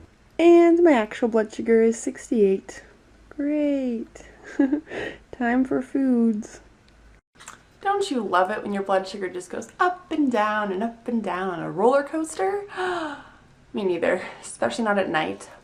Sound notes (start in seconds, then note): 4.4 chuckling; 12.7 delighted gasp